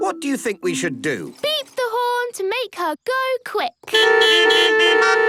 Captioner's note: beeping